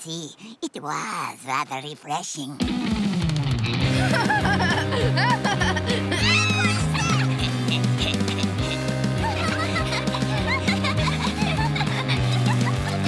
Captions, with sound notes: It was rather refreshing. [laughing] [squealing] [laughing]